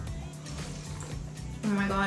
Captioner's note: liquid slurping